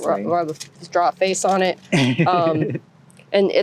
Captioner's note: laughter